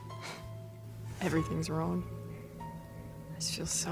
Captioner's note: scoffs